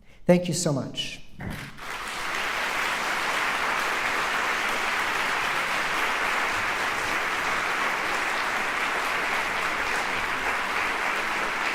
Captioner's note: applause